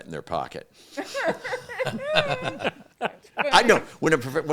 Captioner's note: all laughing